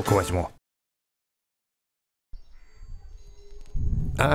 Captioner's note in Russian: Тишина